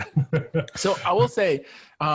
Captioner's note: laughs